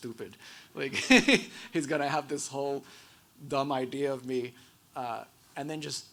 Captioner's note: laughs